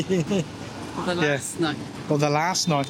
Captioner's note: laughing